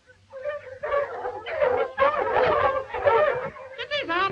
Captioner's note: dog barking